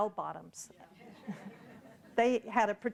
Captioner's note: audience laughing